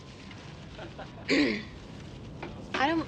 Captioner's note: girl clears throat